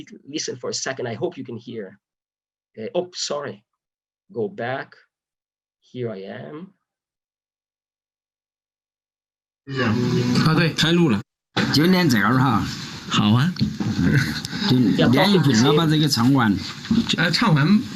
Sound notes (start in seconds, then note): 6.9 recording plays, conversation in Chinese